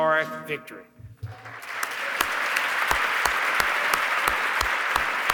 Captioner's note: audience clapping